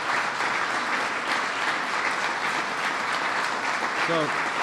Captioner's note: applause